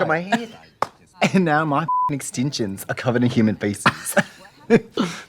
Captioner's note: Katya laughs; beep